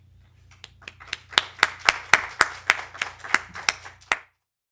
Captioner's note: applause